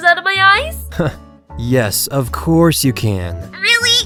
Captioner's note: sarcastically